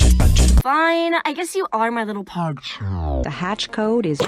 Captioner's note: lowering in pitch